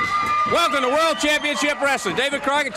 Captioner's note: crowd cheering